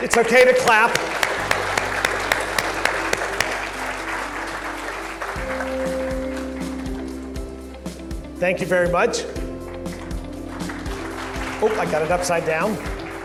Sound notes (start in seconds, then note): 0.0 audience claps; 10.7 audience claps